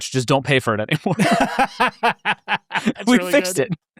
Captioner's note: laughing